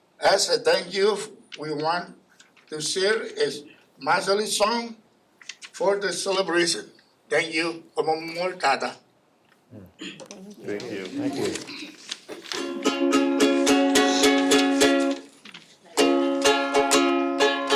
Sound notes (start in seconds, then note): 8.3 speaks in foreign language; 12.5 ukulele plays